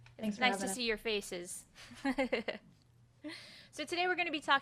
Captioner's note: laughs